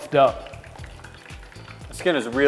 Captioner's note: cooking oil sizzling